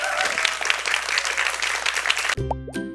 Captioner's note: clap